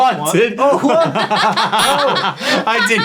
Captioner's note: team laughing